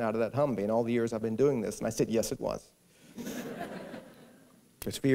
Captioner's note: laughter